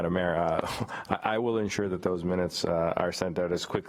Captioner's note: laughs